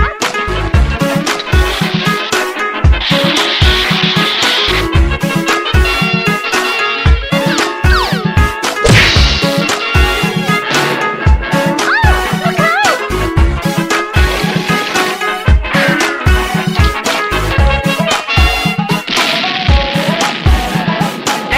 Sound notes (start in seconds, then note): 8.8 crash!